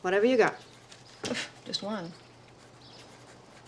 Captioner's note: door closing